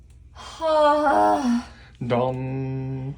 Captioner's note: groans